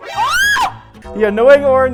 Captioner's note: screaming